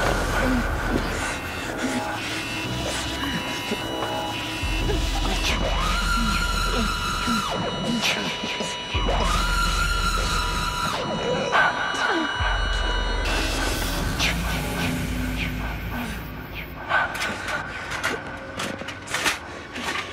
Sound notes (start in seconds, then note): 0.4 scared grunting, panting; 2.7 chaotic sounds, EEG flatline tone; 5.7 distorted, high-pitched tone; 17.2 gurney rattling, Kyle grunting